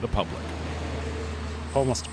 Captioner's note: truck engine roaring